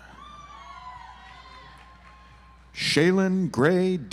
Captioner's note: audience applauds